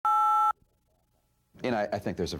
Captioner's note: beep sound